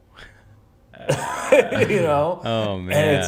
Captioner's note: laughs